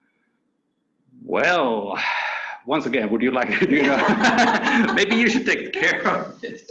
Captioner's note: laughing